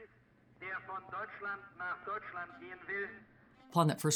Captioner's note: German language over loud speaker